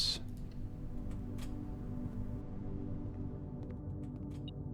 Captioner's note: beeping